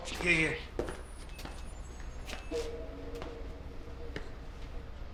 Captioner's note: footstep pattering